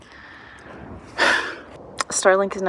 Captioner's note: sigh